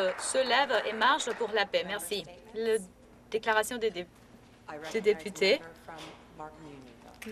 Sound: applause

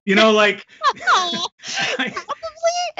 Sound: laughs

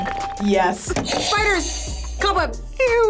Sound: buzzer rings

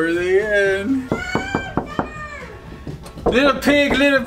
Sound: door knocking

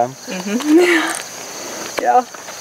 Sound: chuckling

